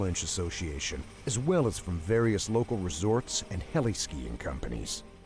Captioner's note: voiceover